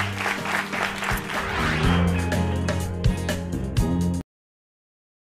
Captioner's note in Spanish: aplausos